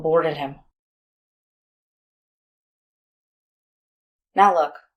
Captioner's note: long silence